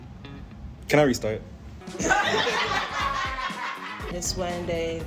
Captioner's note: crowd laughter